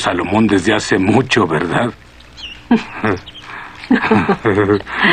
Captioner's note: chuckles